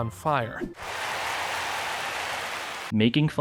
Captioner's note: emphatic applause